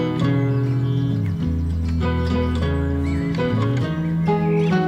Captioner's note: birds singing